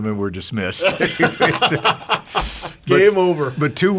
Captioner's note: pastors laughing